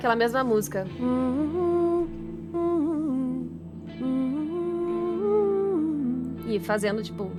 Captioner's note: humming